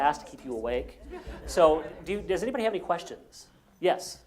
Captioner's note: laugh